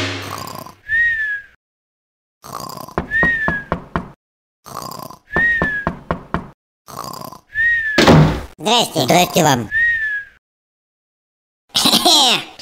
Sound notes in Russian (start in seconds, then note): 0.1 спит и храпит; 3.0 стучат в дверь; 4.6 спит и храпит; 5.4 стучат в дверь; 6.9 спит и храпит